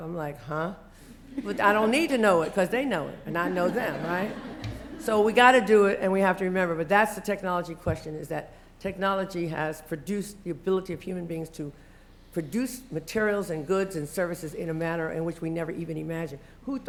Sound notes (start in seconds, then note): 3.3 laughter